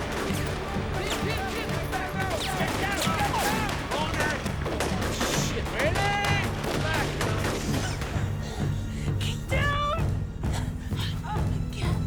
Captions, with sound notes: - He's hit! - Get down, get down! - Shit, man. - Medic! (gunshots firing) - Get down!